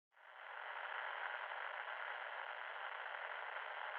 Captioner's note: static hisses